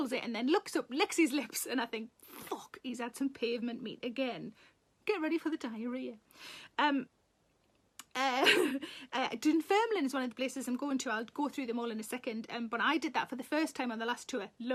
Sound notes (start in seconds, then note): 8.2 Sarah laughs